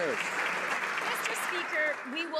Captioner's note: some Applause